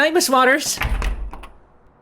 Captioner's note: door closes